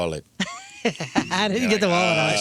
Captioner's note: laughing